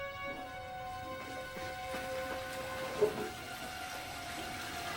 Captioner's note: toilet flushing